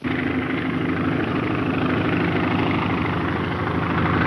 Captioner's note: engine droning